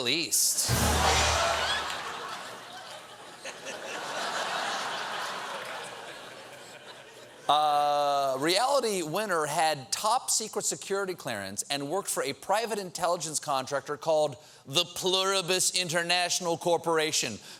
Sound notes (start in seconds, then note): 1.2 laughter